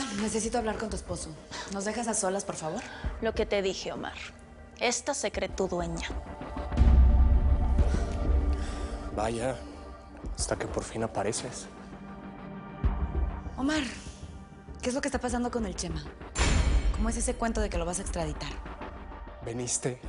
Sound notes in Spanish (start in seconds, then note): none